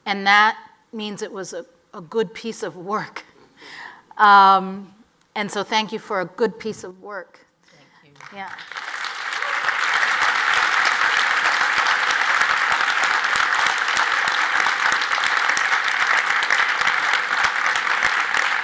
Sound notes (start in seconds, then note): 9.6 audience applauds